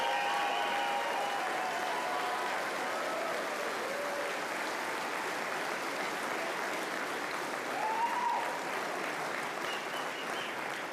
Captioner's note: cheering